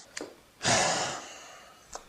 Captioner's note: sigh